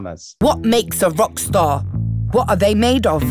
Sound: voiceover

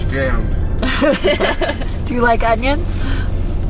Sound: laughs

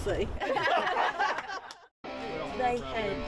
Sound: laughing

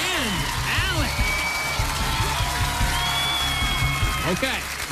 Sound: cheers and applause

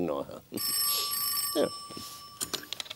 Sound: ring! Ring!

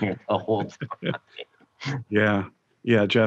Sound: both chuckling

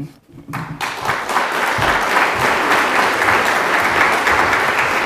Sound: applause

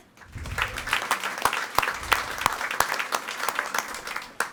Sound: audience applauding

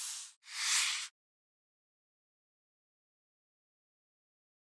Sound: whooshing

